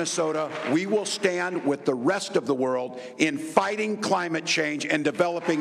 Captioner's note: applause